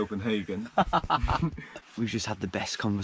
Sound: both laughing

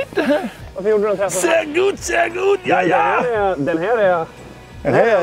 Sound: german

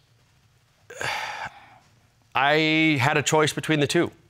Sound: sighs

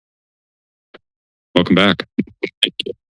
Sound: silence

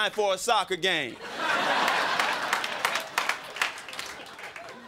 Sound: crowd laughing

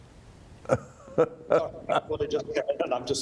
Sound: laughs

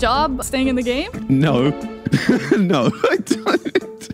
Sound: laughs

